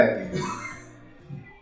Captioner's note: laughter